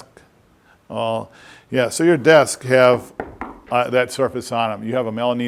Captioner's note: knock on desk